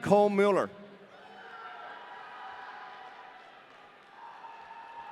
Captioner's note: audience cheering